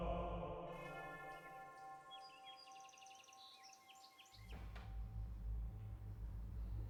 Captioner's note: church bell rings; birds chirping